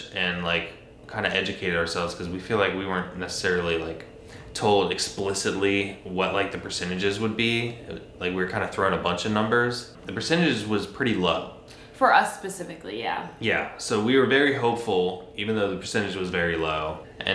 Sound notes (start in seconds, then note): none